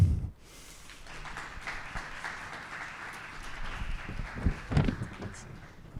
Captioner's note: applause